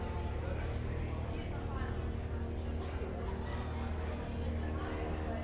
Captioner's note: students chattering